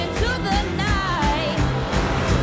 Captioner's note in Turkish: engines roaring